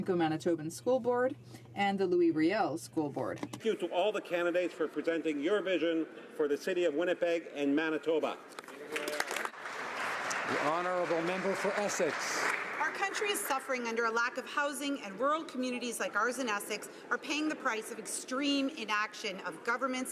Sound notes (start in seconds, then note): 13.1 some Applause